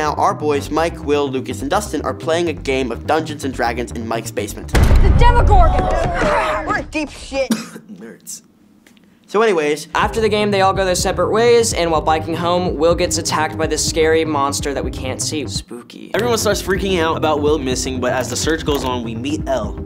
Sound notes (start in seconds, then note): 5.1 boys yelling; 7.3 coughing